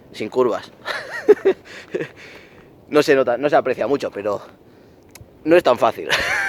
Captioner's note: laughs